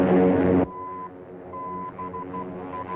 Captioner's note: beeping